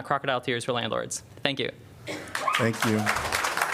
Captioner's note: applause